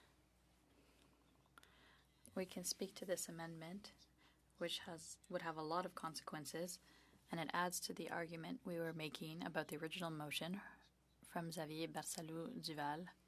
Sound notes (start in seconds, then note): 2.8 speaking French